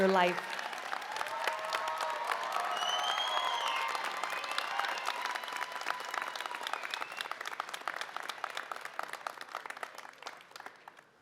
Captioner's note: applause